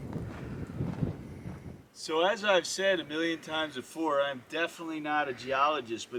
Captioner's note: gravel crunching, wind noise